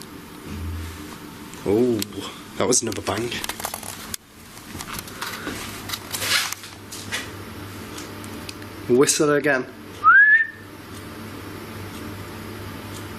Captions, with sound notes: (bang) Oh, that was another bang. Whistle again? (whistles)